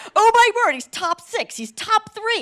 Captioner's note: none